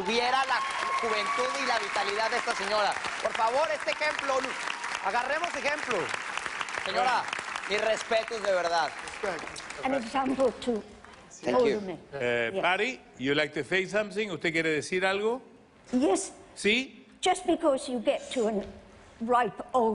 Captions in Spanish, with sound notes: TUVIERA LA JUVENTUD Y LA VITALIDAD DE ESTA SEÑORA. POR FAVOR, ESTE EJEMPLO... AGARREMOS EJEMPLO. SEÑORA, MIS RESPETOS DE VERDAD. >> [HABLA EN INGLES] >> [FRANCISCO HABLA EN INGLES] ¿USTED QUIERE DECIR ALGO? >> [HABLA EN INGLES]